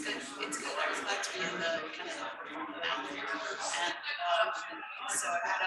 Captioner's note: people chattering indistinctly